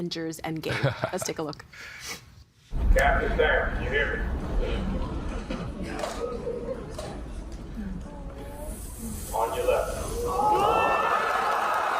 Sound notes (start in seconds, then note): 10.0 audience cheering